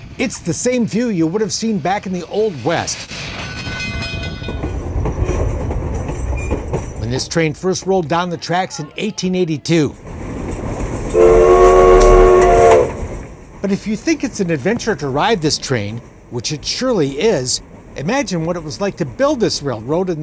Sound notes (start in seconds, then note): 11.1 train whistle blows